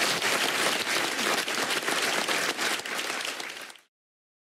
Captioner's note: applause